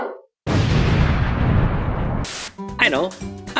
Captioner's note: explosion